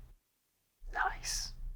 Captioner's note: whispers